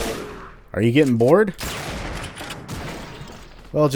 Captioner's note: bam